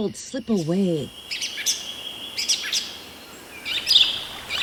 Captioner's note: birds singing